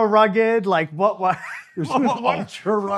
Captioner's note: chuckling